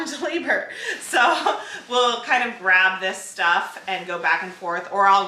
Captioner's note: laughs